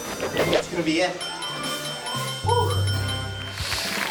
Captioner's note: timer beeping; audience claps